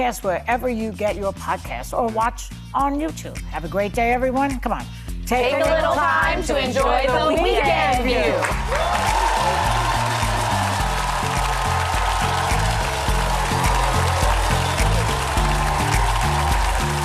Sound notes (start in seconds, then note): 8.4 audience cheering; 11.4 upbeat music; 14.0 audience applauding